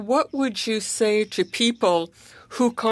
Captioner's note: speaking French